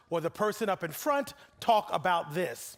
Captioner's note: none